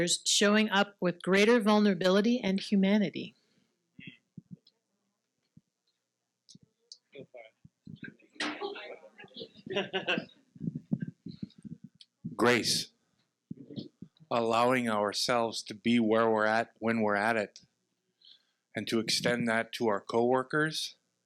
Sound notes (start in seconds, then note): 4.1 participants murmuring; 9.6 participant laughing